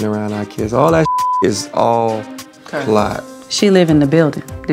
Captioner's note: beep